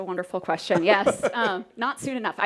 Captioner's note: laughing